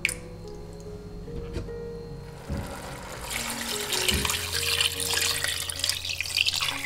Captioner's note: boiling water